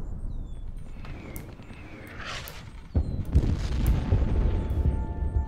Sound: gunshot booming; birds twittering; bullet hisses; soft music; artillery booms

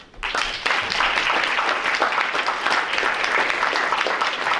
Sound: group applauding

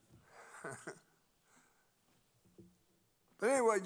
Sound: laughs

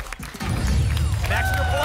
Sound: boom

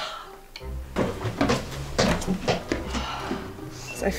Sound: climbing steps; breathing in heavily

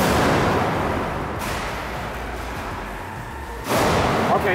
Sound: metal clanking

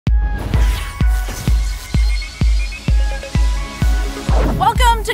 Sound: upbeat music; electricity crackling

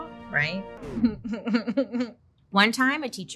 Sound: patriotic music; laughs

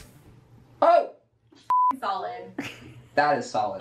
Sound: beep

